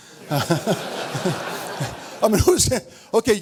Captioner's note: audience laughs